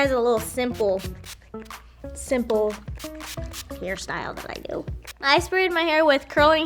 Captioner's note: curl spray spraying